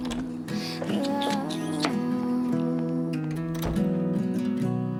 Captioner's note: Cassandra smooches